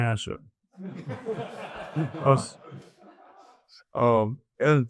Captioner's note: audience laughs